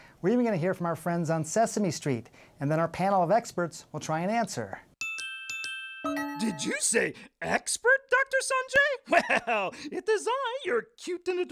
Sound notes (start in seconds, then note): 5.0 chimes chiming